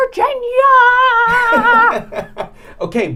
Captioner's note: laughing